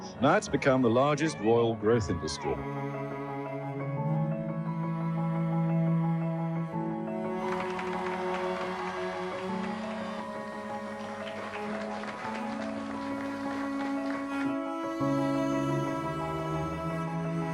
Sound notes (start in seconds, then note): 7.2 crowd cheers; 14.0 engaging dramatic music